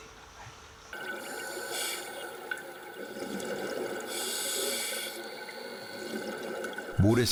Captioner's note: sound of an oxygen tank signal